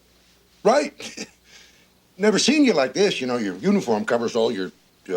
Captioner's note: clears throat